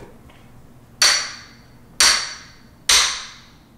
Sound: hammer clangs

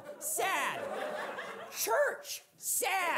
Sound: audience laughing

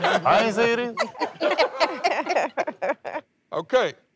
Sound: laughter

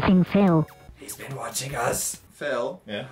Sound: whispers

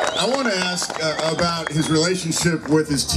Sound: crowd cheering

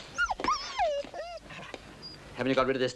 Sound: dog whimpers

